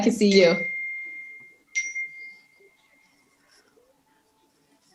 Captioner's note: notification bell dinging